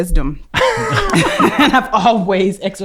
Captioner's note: laughing